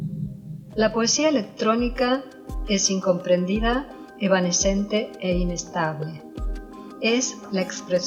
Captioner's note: Robotic voice